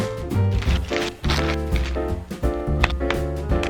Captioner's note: plastic crinkling